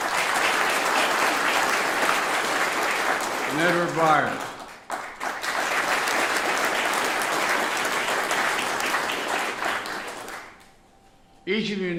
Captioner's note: applause